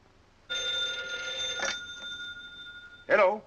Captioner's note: phone ringing